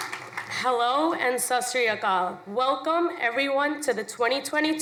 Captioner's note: speaks foreign language